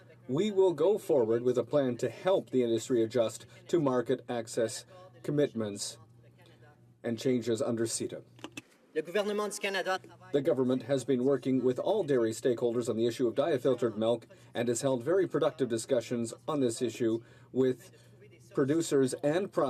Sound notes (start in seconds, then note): 2.5 speaking French